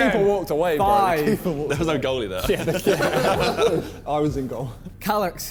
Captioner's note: men chattering